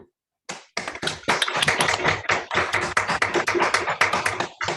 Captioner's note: applause